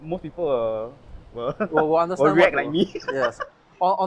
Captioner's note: laughs